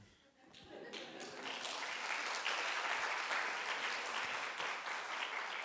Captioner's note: crowd applauds